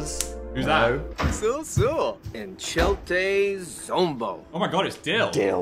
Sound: speaking Simlish

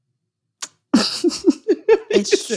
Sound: laughter

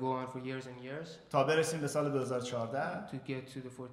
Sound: speaking in farsi

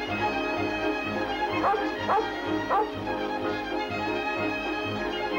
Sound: Shep barking

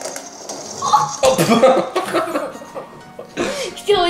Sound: laughs

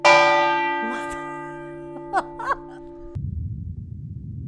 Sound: laughs

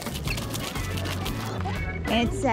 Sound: fast forward talking

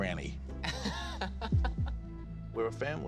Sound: rippon laughing

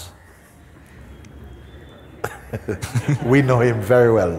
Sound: laughter

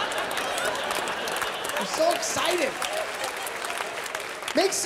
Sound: laughter, applause; laughter

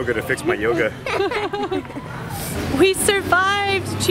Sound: laughing

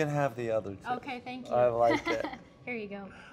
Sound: laughs

